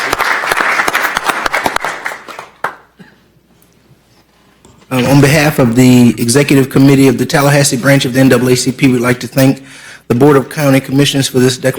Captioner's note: applause